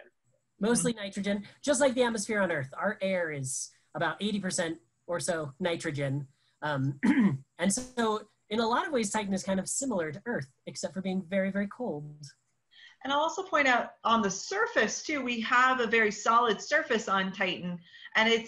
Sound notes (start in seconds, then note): 7.0 clears throat